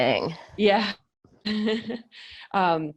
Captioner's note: laughs